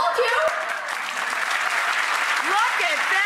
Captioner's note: audience clapping